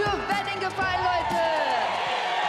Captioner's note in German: Applaus, Jubel